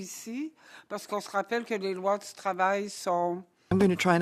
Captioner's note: speaking French